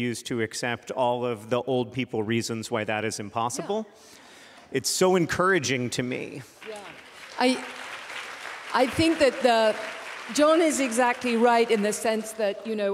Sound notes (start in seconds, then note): 6.5 applause